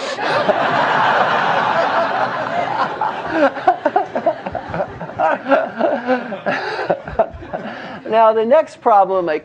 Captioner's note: laugh